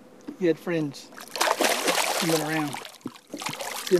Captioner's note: big splash